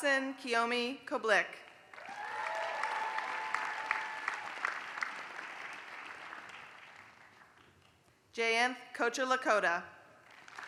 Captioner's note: applause; applause